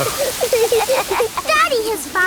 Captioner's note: laughing